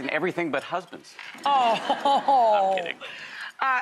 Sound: laughing

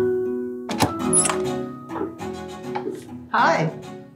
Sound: door opens

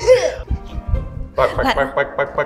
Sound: laughs

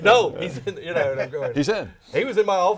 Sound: all laughing

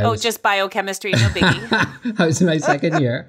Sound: laughs

